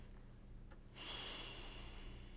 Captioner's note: sighs